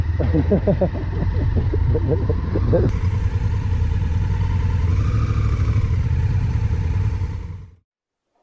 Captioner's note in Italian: rumore di motore